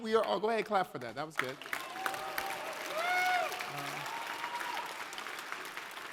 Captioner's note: cheers and applause